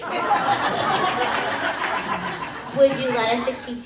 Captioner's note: crowd laughs